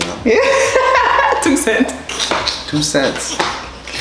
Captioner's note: laughter